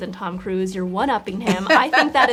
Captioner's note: June laughs